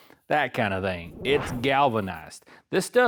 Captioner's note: whooshing